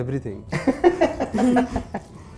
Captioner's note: laughing